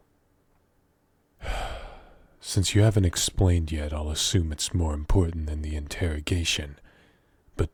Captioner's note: sigh